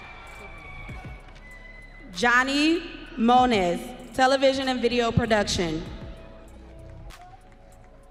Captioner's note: audience cheering